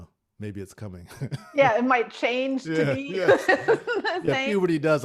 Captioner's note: laughs